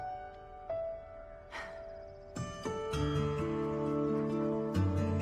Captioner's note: exhales